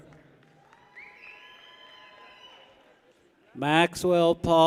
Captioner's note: people cheer